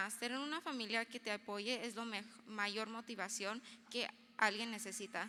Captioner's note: speaking in foreign language